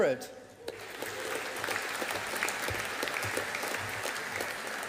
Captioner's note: audience applauding